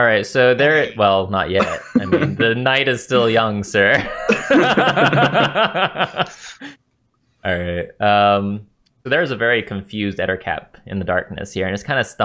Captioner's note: laughter